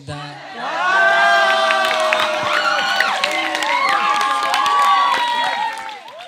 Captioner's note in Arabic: تصفيق